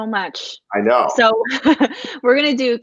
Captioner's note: chuckle